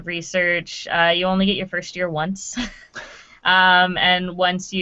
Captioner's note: laughing